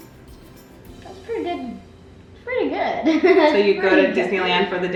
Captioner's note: laughs